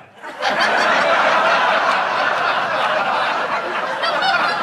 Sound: audience laughing

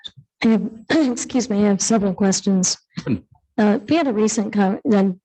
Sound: clears throat

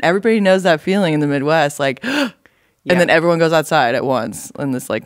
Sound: gasp!

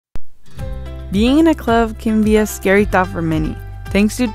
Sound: voiceover

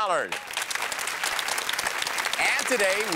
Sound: applause

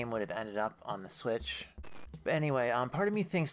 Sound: static

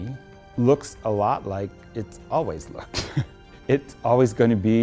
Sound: laughs

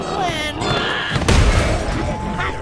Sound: screaming

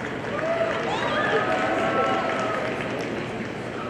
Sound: audience applauding

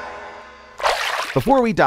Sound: water splash

